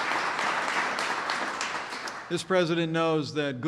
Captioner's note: applause